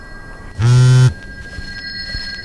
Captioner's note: cell phone buzz